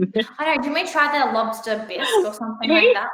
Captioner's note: laughs